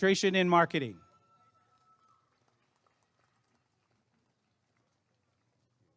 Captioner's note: applause and cheering